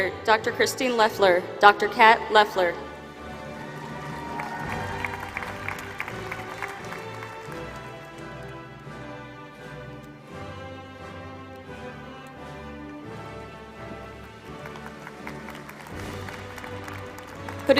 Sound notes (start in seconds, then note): 3.0 applause